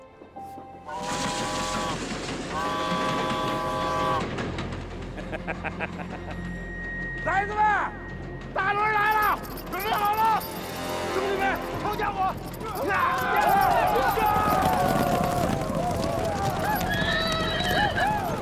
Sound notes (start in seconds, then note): 8.2 train